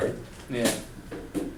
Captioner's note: voiceover